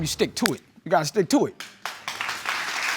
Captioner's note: audience applauds